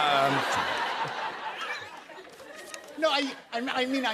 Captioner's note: laughter